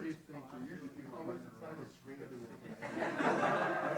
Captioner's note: chatter; laughter